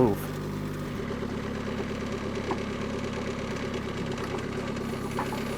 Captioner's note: skid-steer whirring